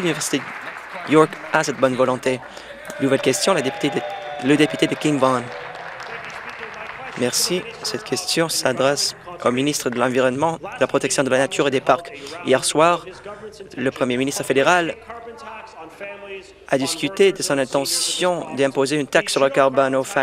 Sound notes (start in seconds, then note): 0.0 some Applause; 5.7 cheering